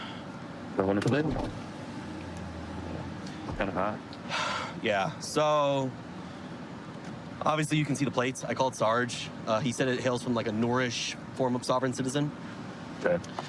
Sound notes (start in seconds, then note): 4.3 sighs